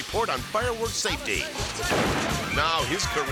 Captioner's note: fireworks exploding